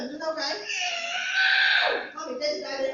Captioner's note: screaming